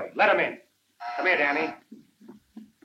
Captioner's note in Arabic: صوت الباب